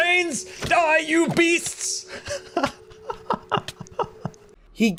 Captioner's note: laughs